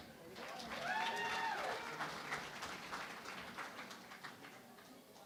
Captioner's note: cheering and Applause